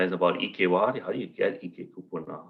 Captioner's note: non-english